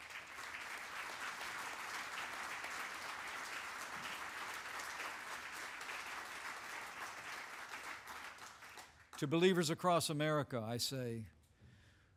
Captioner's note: applause